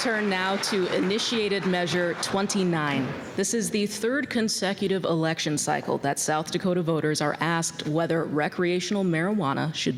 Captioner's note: applause